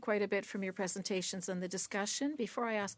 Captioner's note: speaking French